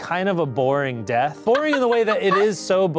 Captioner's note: laugh